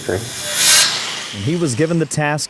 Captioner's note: saw whirring